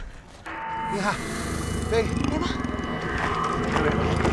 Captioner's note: hissing, growling